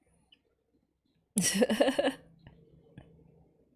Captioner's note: laughs